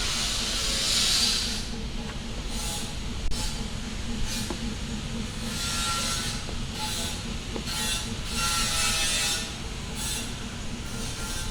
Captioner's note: construction Noise Continues